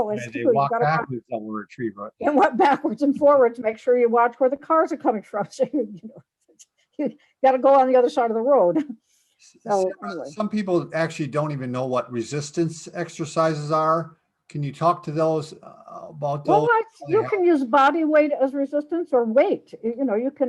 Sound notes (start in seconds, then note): 6.9 laughs